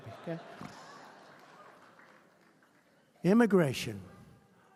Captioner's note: laughter